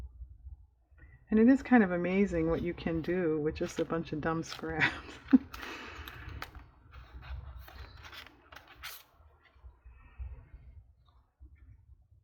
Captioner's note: laughs